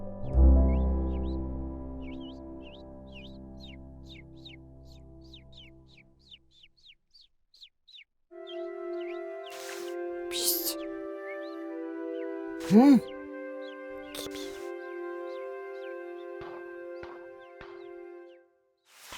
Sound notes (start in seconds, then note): 0.9 birds chirping; 12.6 Abraham exclaims; 14.0 whispers